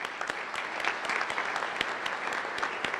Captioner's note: applause